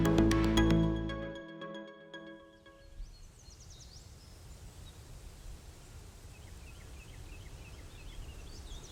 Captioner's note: quiet sound of rustling trees and leaves